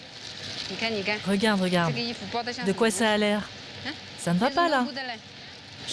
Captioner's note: woman speaking foreign language